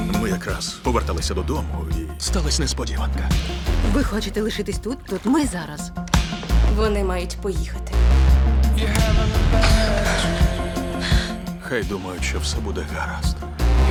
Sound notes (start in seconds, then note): 9.6 gasps